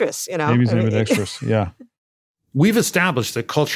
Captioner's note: laugh